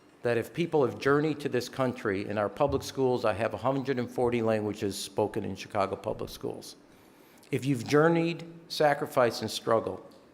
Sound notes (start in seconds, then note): none